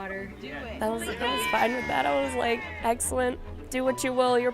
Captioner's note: cheers and applause